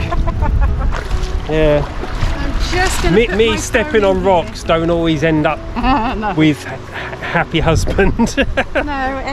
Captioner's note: laughs